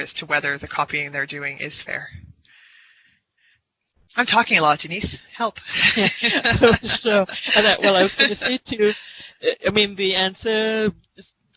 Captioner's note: laughter